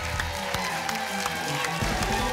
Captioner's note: applause and cheering cont